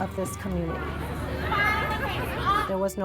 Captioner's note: crowd Walla